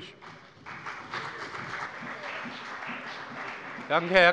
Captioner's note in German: Beifall bei dem BÜNDNIS 90/DIE GRÜNEN und der CDU